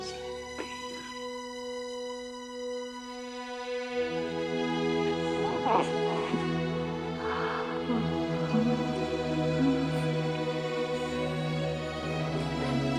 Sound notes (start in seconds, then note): 5.5 baby gurgling; 8.5 soft music